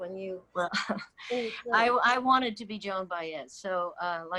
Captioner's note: chuckles